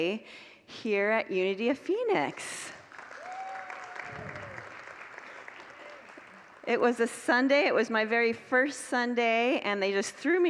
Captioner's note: congregants applaud